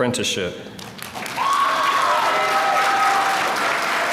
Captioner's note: applause